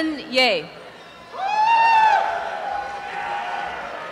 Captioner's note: cheering and applause